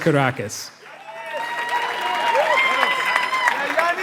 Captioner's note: applause